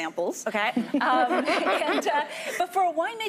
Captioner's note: laughing